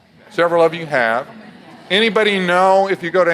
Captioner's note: audience laughs